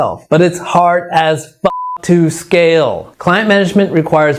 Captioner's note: beep